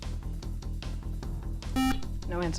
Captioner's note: buzzer